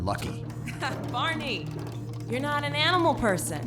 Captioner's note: chuckles